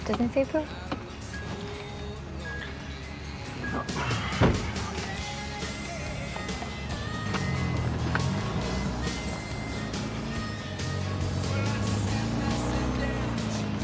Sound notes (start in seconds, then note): 1.9 gentle upbeat music; 7.0 gentle upbeat music; 8.2 car engine revving; 9.2 gentle upbeat music; 10.2 car engine revving